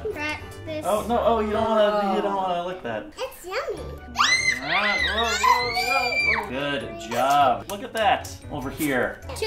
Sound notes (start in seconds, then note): 4.1 screech as egg gets closer to them